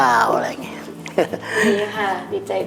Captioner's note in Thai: หัวเราะ